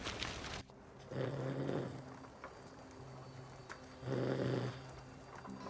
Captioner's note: Marshall snoring